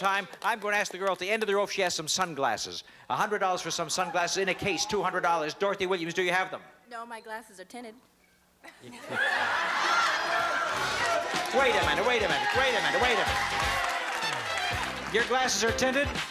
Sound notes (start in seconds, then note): 8.6 laughter